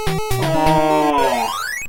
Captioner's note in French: Soupir